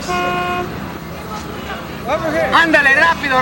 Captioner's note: car horn honking